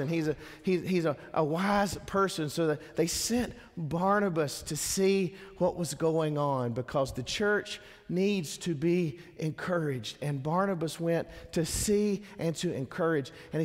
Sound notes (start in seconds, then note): none